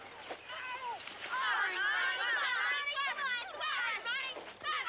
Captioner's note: kids yelling